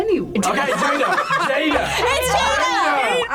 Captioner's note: group laughs